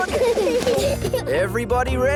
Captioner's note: children giggle